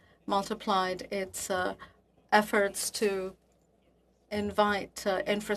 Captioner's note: speaking French